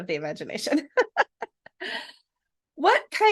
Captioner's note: laughing